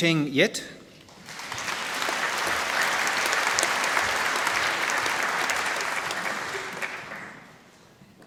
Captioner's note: applause